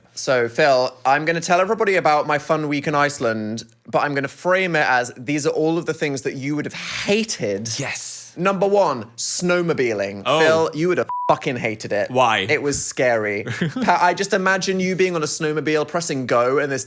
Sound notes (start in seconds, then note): 11.0 beep